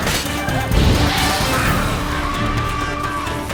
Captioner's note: shrieking; flames whoosh